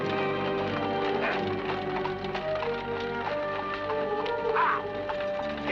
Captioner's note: hooves trotting; suspenseful music